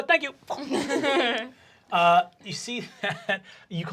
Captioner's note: everyone laughing